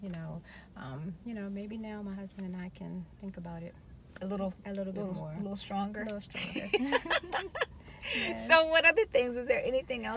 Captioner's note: laughing